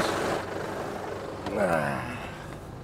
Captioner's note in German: er stöhnt